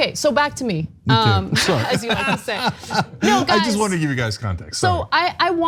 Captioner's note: laugh